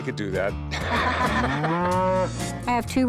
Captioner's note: laughter; cow moos